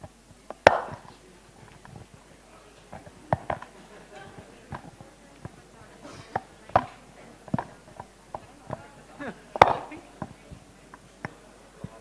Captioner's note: background chatter